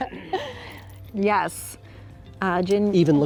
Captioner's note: laughs